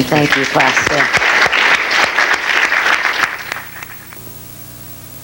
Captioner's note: audience applauds